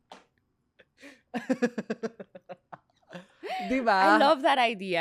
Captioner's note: laughs